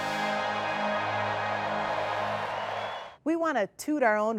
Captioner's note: crowd cheering